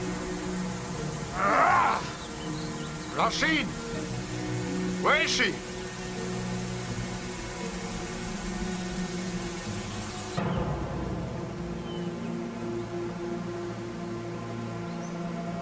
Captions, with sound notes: - Rah-Sheen! Where is she? (somber orchestral music) (birds chirping)